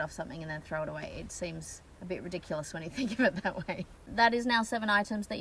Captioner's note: laughs ruefully